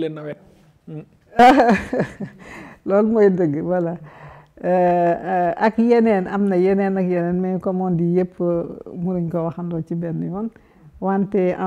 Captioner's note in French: rires